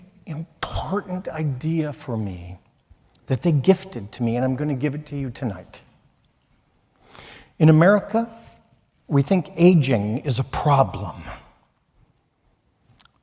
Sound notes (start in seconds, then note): none